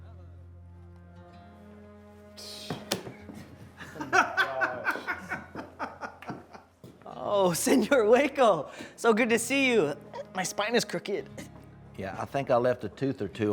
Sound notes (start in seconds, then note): 3.7 group laughing